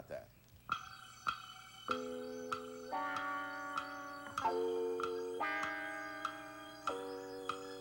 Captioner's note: clock ticking